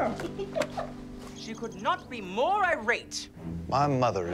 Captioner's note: birds chirping